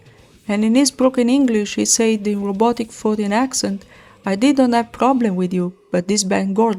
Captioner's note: in robotic, foreign accent